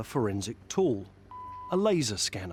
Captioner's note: scanner beeping